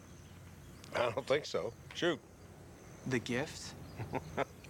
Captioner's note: laughing